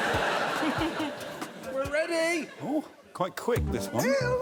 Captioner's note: laughter